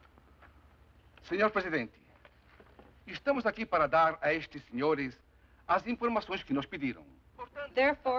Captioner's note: speaking Portuguese